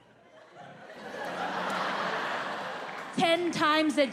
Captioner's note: audience laughing